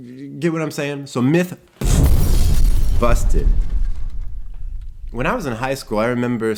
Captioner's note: explosion resounds